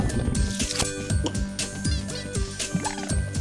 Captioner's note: gulps